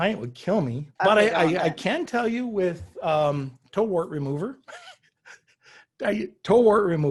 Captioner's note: chuckles